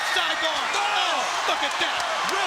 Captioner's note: commentators exclaim